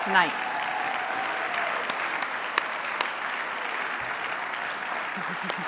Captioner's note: applause, cheering; applause